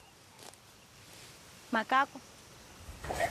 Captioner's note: speaks native language